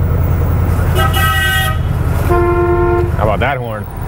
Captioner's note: car honks